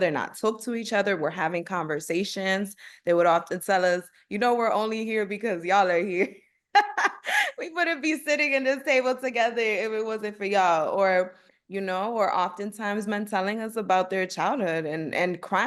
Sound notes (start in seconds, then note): 6.8 laughter